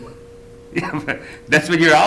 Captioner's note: laughs